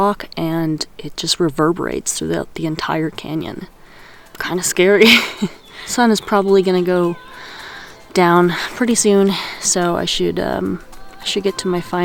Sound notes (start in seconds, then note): 5.2 laughs